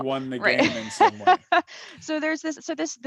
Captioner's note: laughs